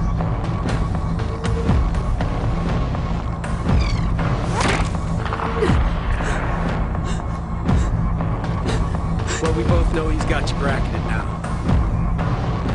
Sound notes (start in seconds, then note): 4.4 bullet whizzes past; 5.2 gunshot echoes